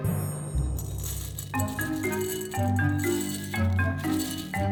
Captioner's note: oats pouring